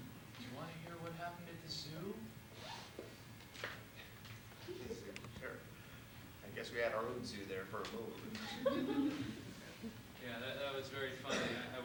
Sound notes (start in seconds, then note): 8.4 laughter